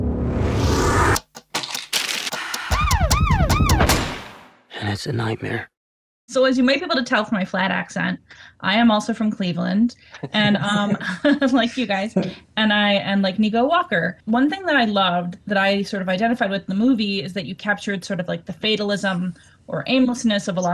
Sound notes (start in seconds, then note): 0.2 hip hop music; 10.1 laughter